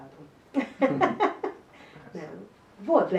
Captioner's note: chuckles